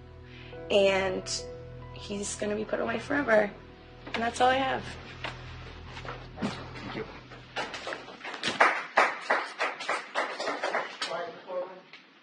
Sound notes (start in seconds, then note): 8.3 scattered applause